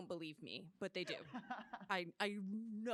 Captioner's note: laughter